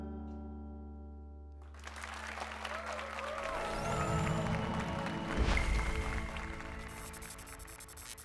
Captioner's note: applause and cheers